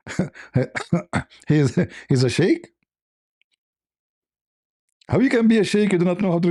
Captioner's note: laughter